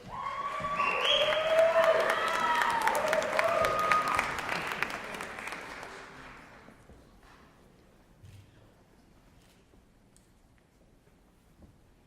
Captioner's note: cheering